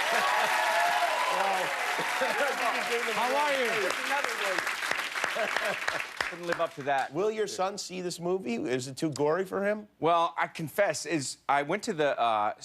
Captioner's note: laughter; cheers and applause